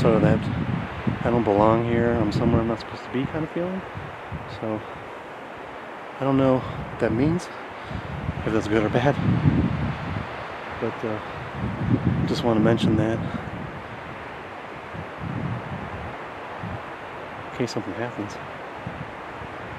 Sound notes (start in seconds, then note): 9.9 wind whooshing; 13.2 stream flowing